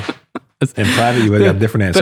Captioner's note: chuckles